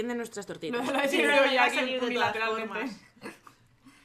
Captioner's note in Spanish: risas